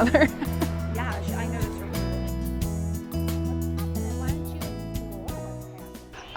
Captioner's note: indistinct background chatter